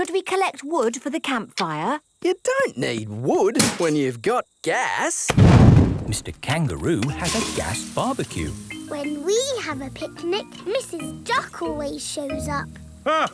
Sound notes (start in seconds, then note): none